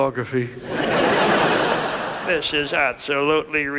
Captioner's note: audience laughs